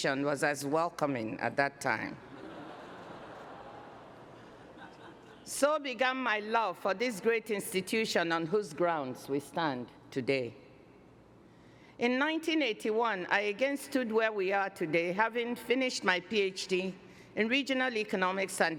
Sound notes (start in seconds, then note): 2.2 laughter